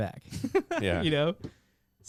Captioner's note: laughs